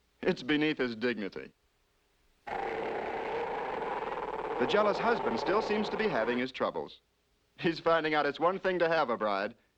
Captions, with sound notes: It's beneath his dignity. (GROWLING) The jealous husband still seems to be having his troubles. He's finding out it's one thing to have a bride,